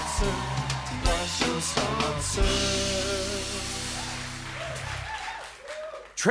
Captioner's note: cheers and applause